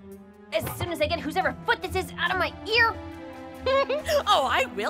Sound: giggles

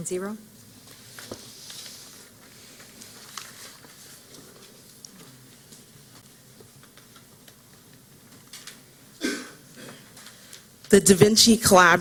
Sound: silence

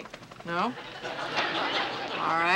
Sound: laughter

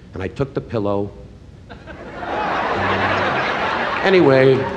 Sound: laughing

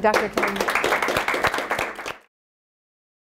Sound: group applauds

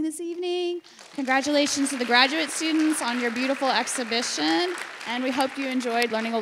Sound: audience applauds

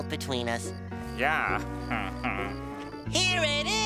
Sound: chuckles

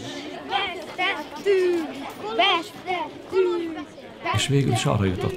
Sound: children chanting: We lost, we lost

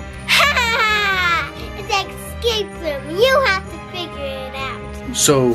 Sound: laughter

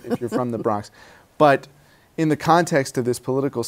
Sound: laughs

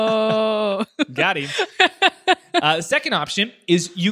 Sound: laughs

